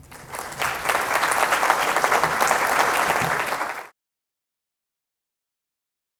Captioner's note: applause